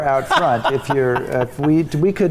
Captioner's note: laughing